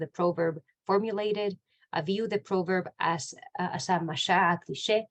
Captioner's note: Hebrew